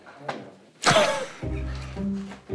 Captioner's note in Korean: 헛웃음